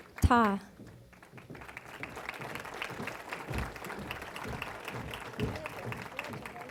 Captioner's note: applause